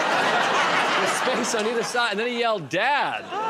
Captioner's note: laughter